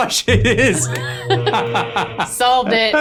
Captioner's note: laughing